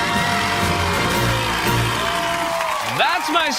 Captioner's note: cheers